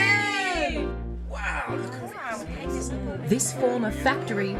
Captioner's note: chatter